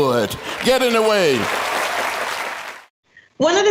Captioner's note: audience claps and cheers